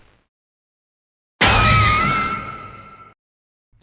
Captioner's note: scream